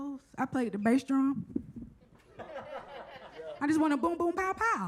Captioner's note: audience laughs